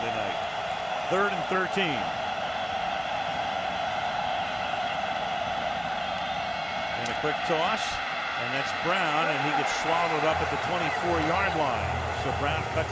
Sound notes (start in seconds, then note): 3.0 cheering